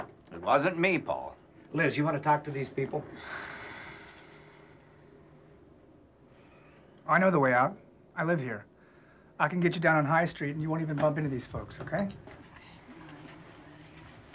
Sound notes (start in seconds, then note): 3.0 exhales